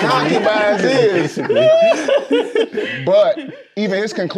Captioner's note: group chattering and laughing